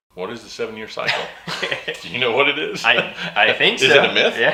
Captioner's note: laughing